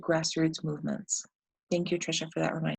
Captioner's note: none